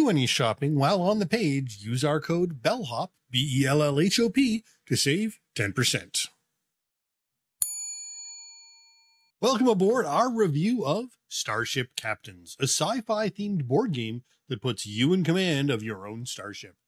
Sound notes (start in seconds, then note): 7.6 bell dings